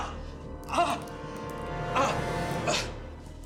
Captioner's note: yelps; gasping